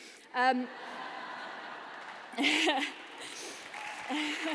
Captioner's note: laughter; applause